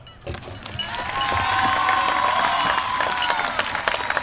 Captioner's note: applause